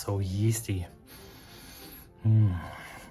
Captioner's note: baker sniffs